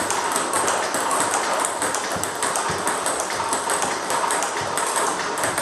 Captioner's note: ball ping pong hitting continues